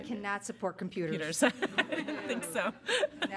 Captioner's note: laughter